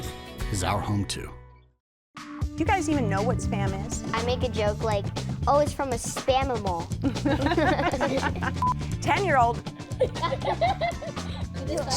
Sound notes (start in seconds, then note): 7.0 laughter; 8.6 beep; 9.8 laughter